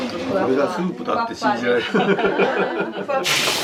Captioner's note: laughs